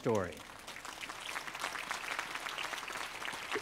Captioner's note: applause